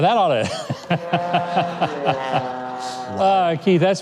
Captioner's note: laughing